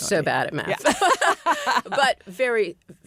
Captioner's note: laughter